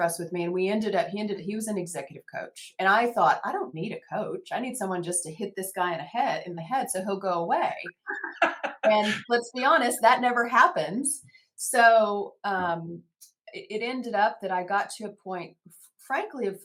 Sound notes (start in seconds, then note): 7.9 laughs